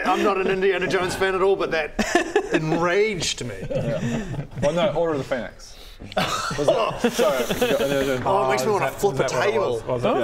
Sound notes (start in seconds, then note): 6.0 winces